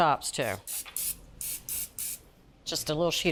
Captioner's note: spray spritzing